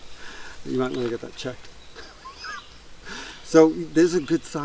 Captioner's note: laughs